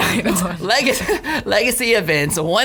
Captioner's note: laughs